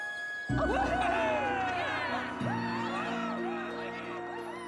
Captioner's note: cheering